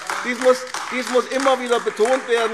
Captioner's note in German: Beifall AfD